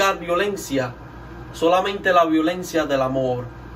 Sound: speaks Spanish

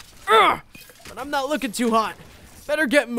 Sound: grunts

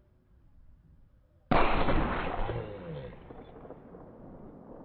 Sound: slow-motion gunshot

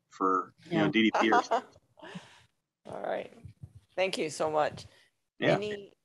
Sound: laughing

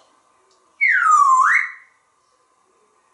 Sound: whistle

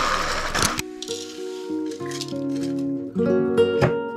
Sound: blender whirring; oats crashing; relaxing music

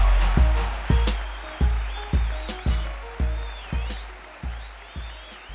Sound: crowd clapping and whistling

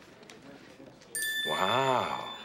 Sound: photo pinging

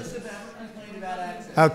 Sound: off-mic

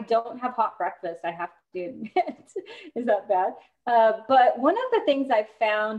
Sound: laughter

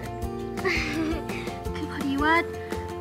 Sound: laughter

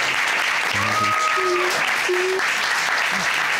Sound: murmurs; sobbing

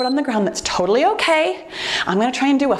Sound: timer beeps

